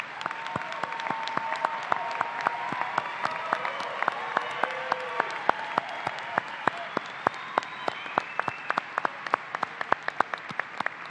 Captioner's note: cheers and applause